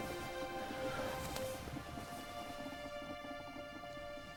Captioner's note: Dayne exhaling